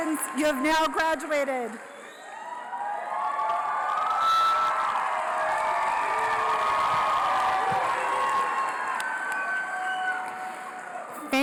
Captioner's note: applause